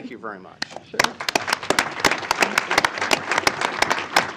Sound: applause

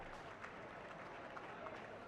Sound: applause

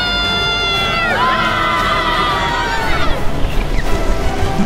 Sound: all yelling; intense orchestral music

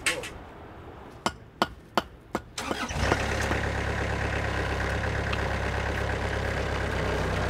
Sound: mallet hitting block; machinery engine starts

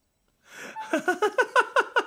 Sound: squeaks

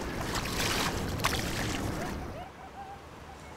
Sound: splashing

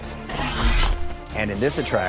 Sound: Blue roars

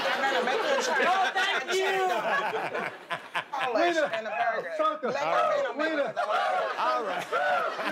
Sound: laughter

